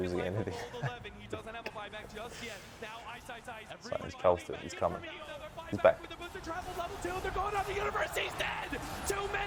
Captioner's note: laughs